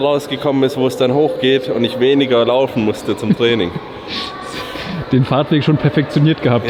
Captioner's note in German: schnauben